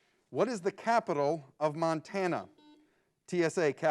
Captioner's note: buzzer beeps